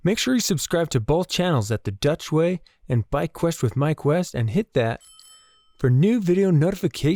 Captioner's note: bell